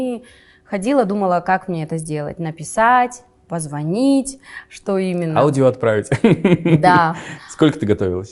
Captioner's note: laughs